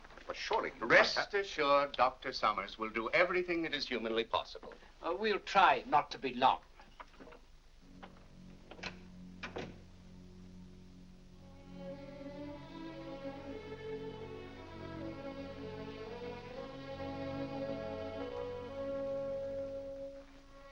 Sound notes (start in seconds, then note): 7.8 doors close; 11.4 somber music